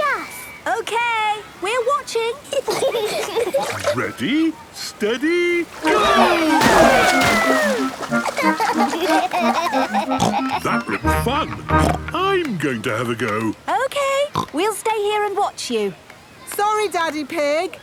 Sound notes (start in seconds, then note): 2.5 giggling; 7.9 giggling; 9.3 snorts